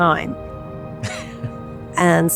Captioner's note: laughing